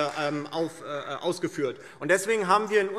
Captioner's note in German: Demonstrativer Beifall Freie Demokraten